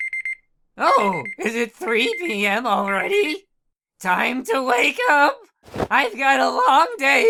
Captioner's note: phone Beeping